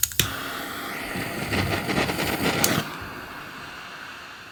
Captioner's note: hissing